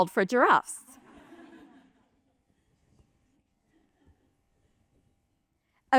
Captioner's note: laughter